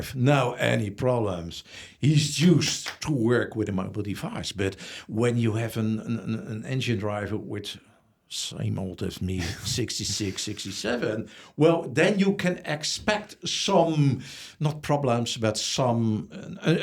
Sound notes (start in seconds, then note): 9.3 laughs